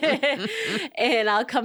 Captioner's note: laughing